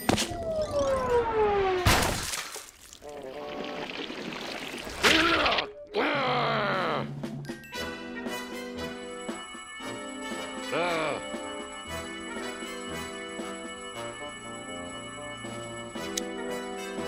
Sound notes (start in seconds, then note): 1.8 splat; 5.8 growling; 6.0 grunts; 10.8 grunts